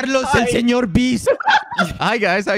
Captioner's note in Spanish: risas